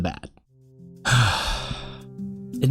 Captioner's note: sigh